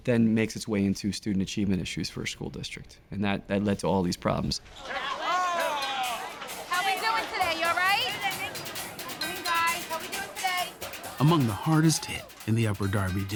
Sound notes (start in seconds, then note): 4.8 children chatting